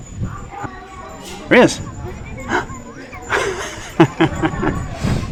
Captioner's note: laughing